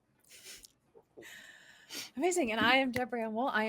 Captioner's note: laughing